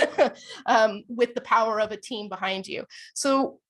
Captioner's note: laughter